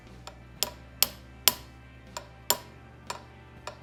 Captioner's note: hammer tapping